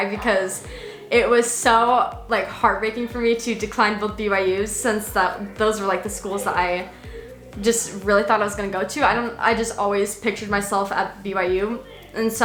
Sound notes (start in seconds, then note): none